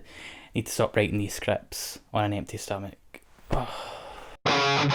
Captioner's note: sighs